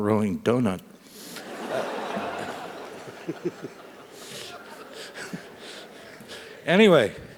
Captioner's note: laugh